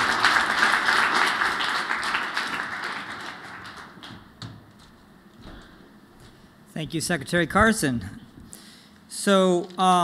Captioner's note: applause